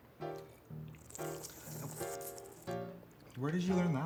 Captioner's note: weird slurping noise